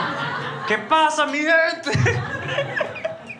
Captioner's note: Spanish; laughs